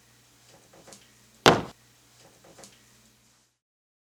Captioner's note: slamming